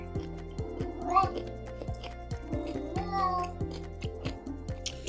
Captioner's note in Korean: 고양이 우는 소리